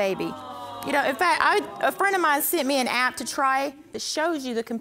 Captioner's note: stammering